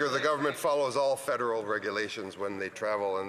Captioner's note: some Applause